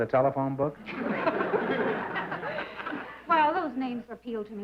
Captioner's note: laughter